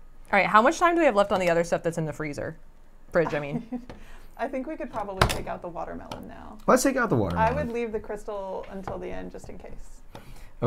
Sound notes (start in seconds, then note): 3.1 laughs